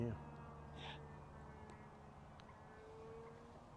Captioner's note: whispering